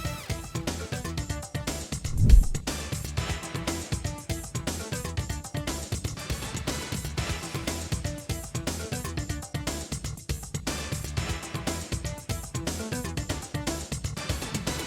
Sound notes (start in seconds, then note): none